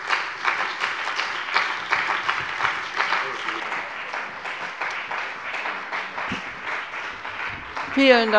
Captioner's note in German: Beifall bei dem BÜNDNIS 90/DIE GRÜNEN und der CDU